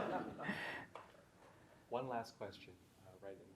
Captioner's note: audience laughing